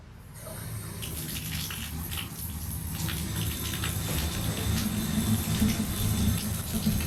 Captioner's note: suspenseful music; water trickling